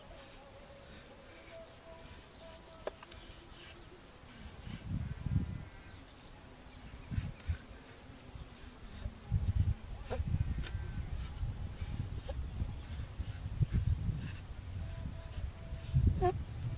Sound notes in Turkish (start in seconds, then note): 0.0 Kesme sesi ve uzaktan gelen kaval sesi